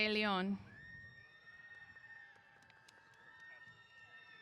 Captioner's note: cheers